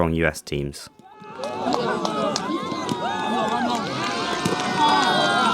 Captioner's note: crowd noise